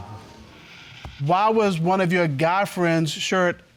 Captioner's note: audience exclaiming